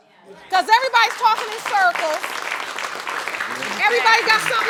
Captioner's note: audience applauding